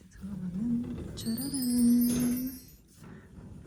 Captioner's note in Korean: 쫘라란